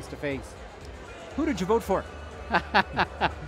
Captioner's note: laughing